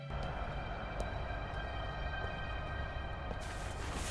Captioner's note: street sounds